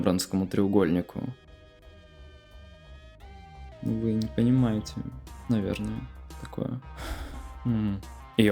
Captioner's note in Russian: грустный вздох